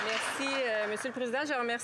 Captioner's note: applause